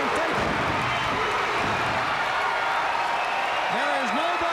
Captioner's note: fans cheering